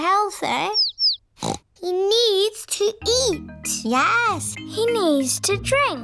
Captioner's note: snorts